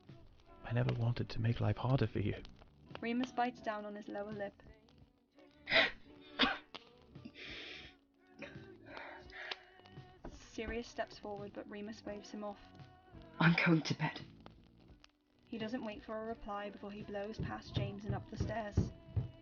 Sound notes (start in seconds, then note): 10.6 Remus choking out a sob